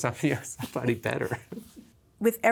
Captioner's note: laughs